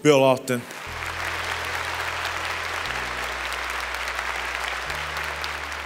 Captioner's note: applause